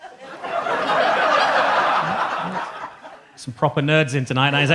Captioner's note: audience laughs